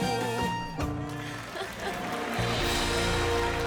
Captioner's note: cheering and applause